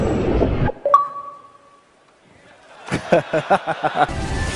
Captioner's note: ahaha